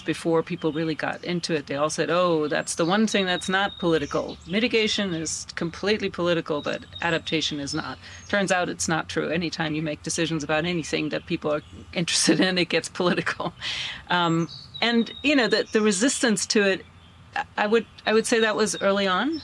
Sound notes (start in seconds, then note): 16.1 birds chirping